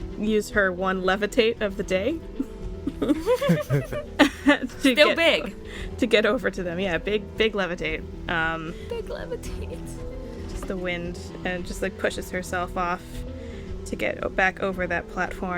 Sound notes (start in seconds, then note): 2.8 laughter